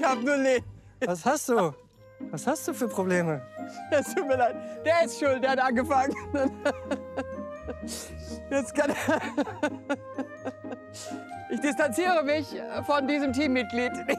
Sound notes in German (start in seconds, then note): 0.0 Pierre lacht; 6.0 Pierre und Tonmann lachen weiter